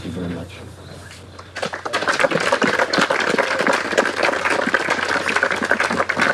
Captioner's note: applause